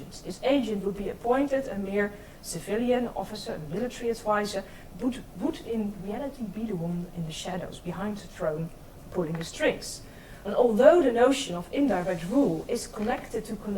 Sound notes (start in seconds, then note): 5.6 speaks in foreign language